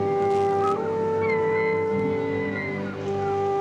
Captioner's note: seagulls crying